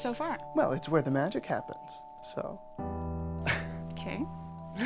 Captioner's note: chuckling